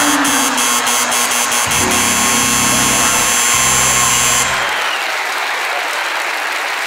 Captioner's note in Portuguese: campainha e aplausos